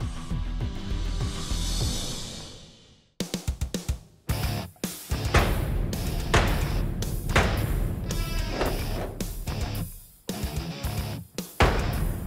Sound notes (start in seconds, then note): 5.2 blade impacts